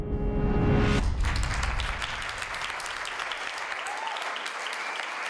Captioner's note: audience clapping